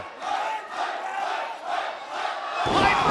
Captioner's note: fans chanting